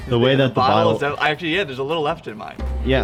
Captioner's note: animal noises; laughs